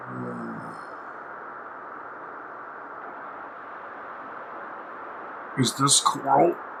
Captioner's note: there's a persistent sound, like howling wind